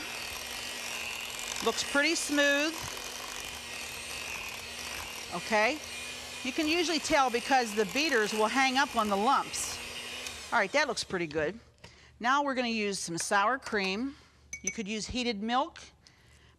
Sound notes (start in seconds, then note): 0.1 mixer mixing; 3.4 mixer mixing